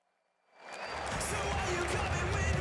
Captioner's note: crowd cheering